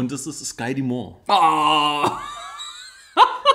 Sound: laughs

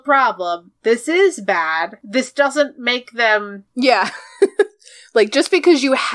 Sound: laughs

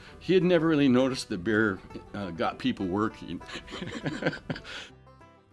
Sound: laughing

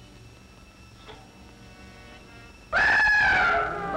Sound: whistling

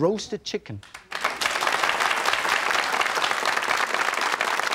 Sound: audience applauding

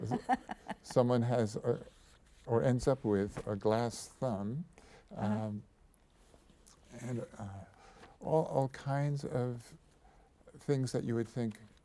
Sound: chuckles

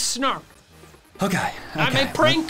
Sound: sighs

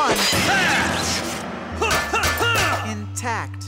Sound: stomping

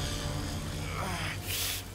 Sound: wincing

